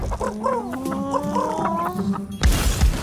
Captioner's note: happy clucking